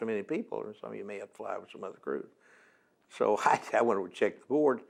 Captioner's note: laughs